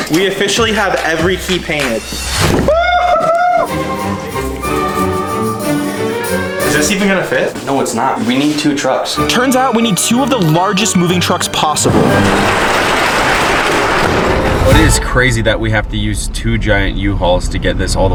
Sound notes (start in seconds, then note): 2.6 cheers; 2.7 whimsical music; 11.6 doors rattle shut